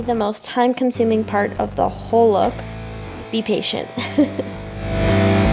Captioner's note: laughs